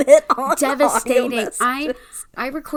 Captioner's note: laughs